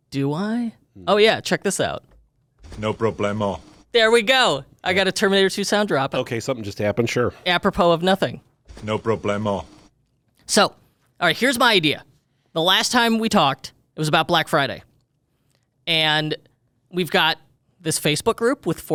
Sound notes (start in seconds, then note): 2.6 Arnold Schwarzenegger soundboard clip; 8.7 Arnold Schwarzenegger soundboard clip